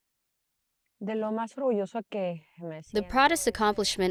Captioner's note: speaking in foreign language